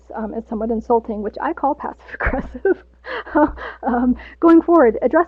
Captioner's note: laughs